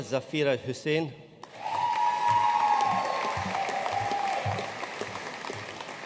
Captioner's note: audience cheering and applauding